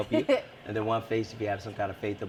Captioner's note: laughs